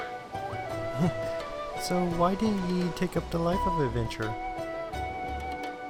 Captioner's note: stutters